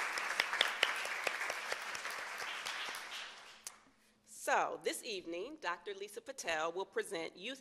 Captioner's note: applause